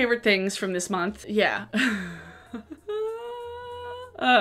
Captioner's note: laughs